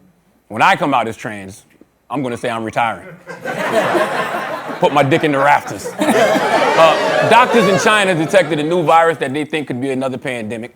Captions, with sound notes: When I come out as trans, I'm gonna say I'm retiring. [laughter] Put my dick in the rafters. [laughter, catcalls] Doctors in China detected a new virus that they think could be another pandemic.